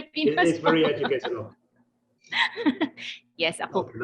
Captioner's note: laughing